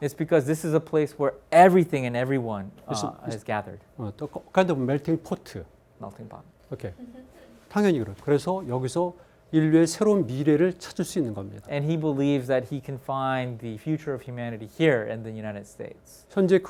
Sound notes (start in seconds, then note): 4.4 speaking in Korean